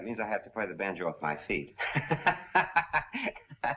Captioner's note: laughs